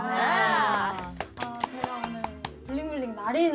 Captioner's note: welcome applause